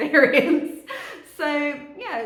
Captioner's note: laughing